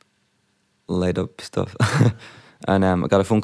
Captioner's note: laughs